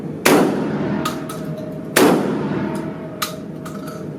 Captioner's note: gunshot fires